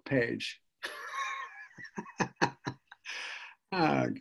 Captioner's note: laughs